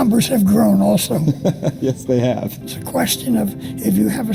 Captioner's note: chuckles